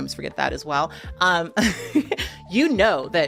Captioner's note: person laughing